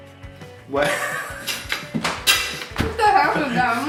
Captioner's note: both laughing